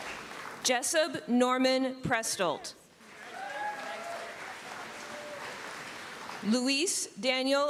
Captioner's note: cheering